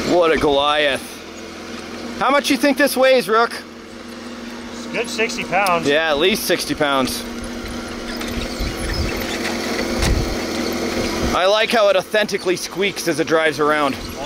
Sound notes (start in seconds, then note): 8.0 squeaking